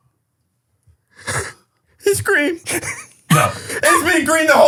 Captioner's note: sobs